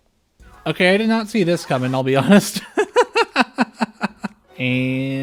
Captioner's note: laughter